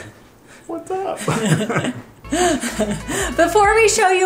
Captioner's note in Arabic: يضحك